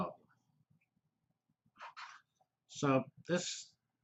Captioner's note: pause